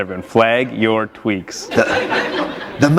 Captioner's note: laughter